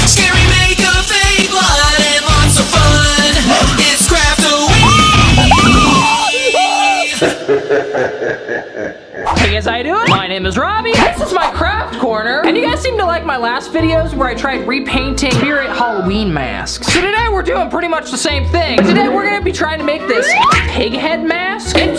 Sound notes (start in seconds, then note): 0.0 upbeat music; 6.2 screaming; 7.7 evil laugh